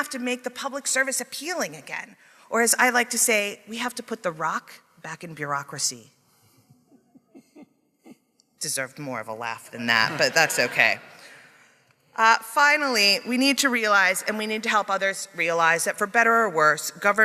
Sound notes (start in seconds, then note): 6.9 a few people chuckle; 10.0 audience laughing